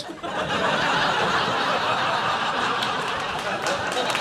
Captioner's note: audience laughing